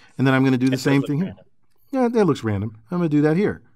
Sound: laugh

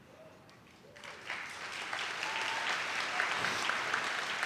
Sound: audience claps

